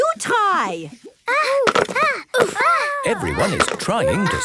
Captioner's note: all grunting